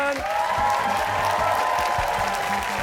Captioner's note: cheers and applause